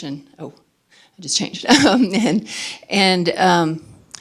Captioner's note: laughing